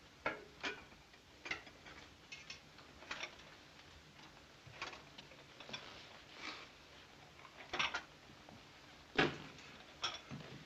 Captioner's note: dishes clattering